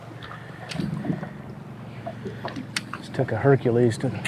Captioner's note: water guggling